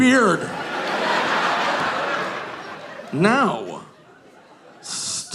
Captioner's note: audience laughing